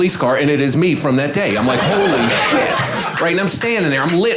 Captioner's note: audience laughing